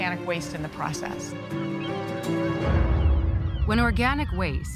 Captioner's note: birds cawing